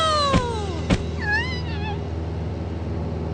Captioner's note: whimpering